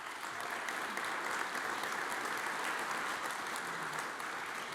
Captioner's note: audience applauds